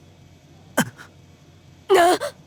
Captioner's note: gasp